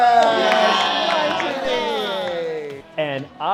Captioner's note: campers cheering